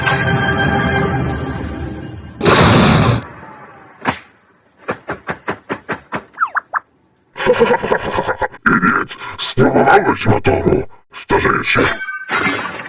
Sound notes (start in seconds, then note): 7.3 laugh